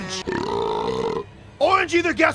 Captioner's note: burps; music intensifying